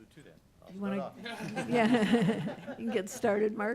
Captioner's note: laughter